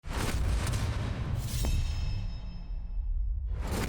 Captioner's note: logo whooshes